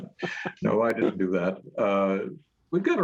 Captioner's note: chuckling